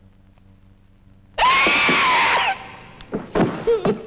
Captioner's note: Tess Screaming